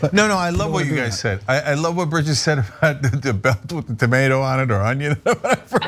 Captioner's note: laugh